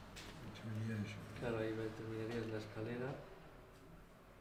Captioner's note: conversation in Spanish